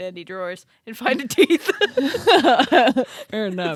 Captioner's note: both laughing